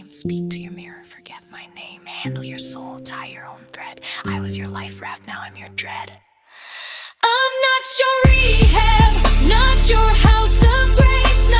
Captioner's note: whispered